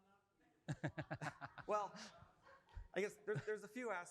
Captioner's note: laughing